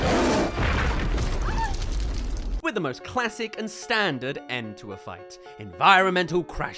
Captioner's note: crushed